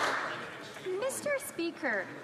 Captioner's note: some Applause